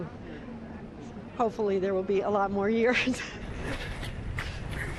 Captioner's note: chuckles